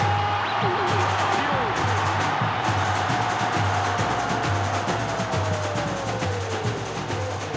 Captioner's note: crowd roaring; joyous Brazilian music playing